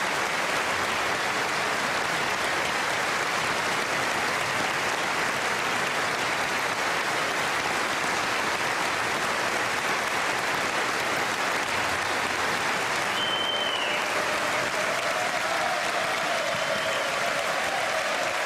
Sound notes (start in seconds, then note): 2.3 cheers and applause